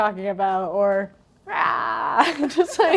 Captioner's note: imitates screaming